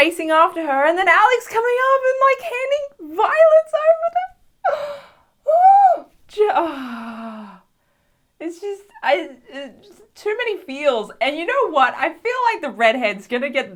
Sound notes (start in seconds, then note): 4.6 Loud Gay sigh